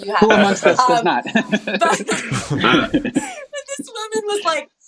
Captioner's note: all laughing